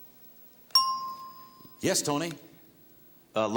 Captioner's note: ting